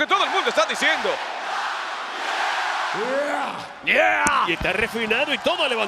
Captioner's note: applause